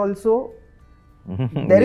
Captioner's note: laughs